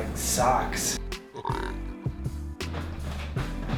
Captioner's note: burps